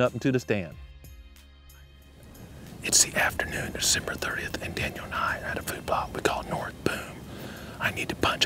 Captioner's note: whispering